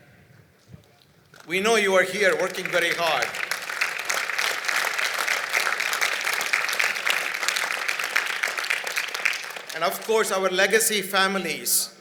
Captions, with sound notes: We know you are here working very hard. [ Applause ] And of course, our legacy families,